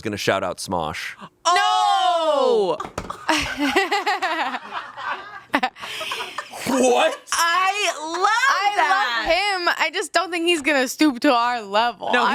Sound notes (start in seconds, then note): 3.0 laughing